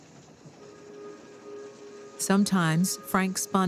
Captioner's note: train horn blares